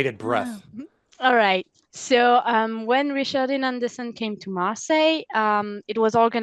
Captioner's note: translating from French